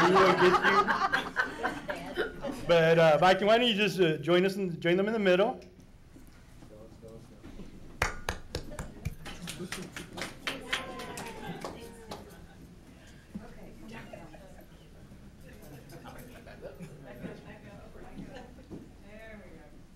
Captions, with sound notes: (laughing) Look at you. But Viking why don't you just join them in the middle. (applauding) - Back up back up, there we go.